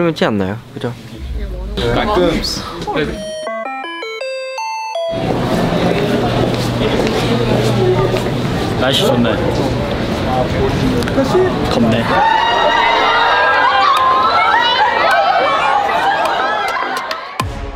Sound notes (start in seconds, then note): 2.7 patting; 11.9 entering with cheering